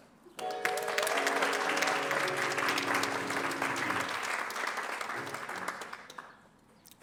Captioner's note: applause